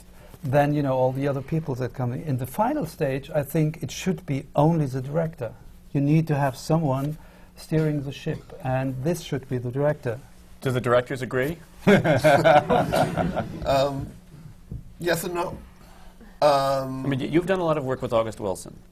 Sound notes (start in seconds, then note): 11.8 laughter